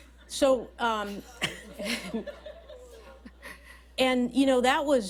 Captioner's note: laughter